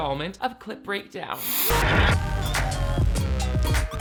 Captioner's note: static crackling